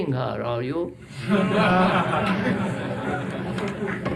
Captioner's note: laughter